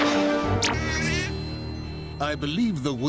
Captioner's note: sounds of rocket actually *working; nervous sounds